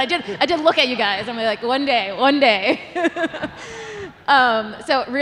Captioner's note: all laughing